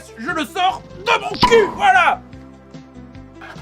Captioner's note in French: Pop